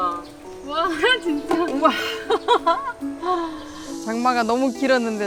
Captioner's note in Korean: 웃음